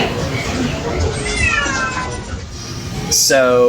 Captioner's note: cat meows loudly